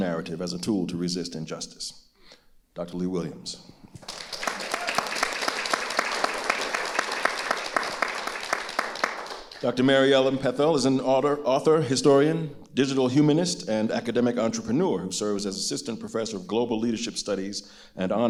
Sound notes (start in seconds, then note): 4.0 audience applauding